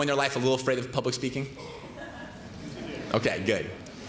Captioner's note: laughter